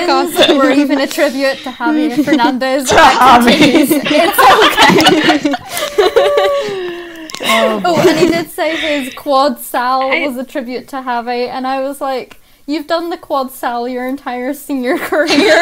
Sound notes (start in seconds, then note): 0.0 laughter; 3.2 laughter